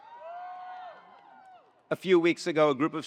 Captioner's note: attendees cheering